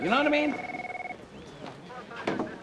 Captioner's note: phone ringing